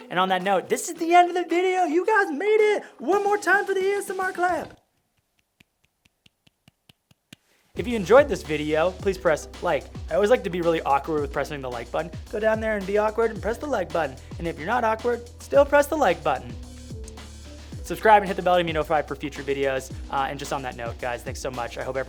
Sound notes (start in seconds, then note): 5.0 hands clapping